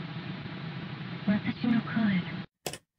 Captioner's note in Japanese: 粗いノイズ混じりの音声; マウスをクリックする音：カチ